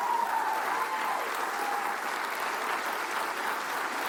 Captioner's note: cheers and applause